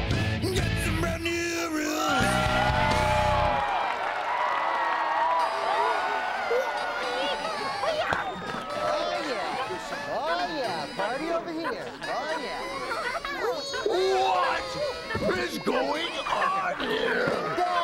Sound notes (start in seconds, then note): 2.0 wild cheering and applause; 5.1 partying continuing